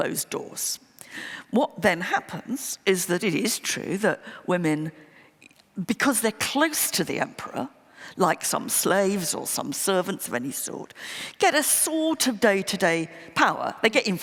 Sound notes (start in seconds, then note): none